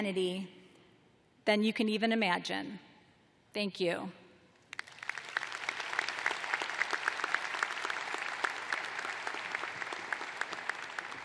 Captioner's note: applause